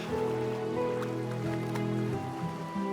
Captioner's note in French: éclaboussures d'eau